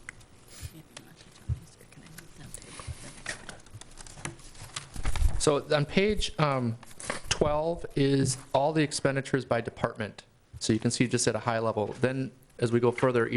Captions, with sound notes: (whispering) So on page 12 is all the expenditures by department. So you can see just at a high level. Then as we go further,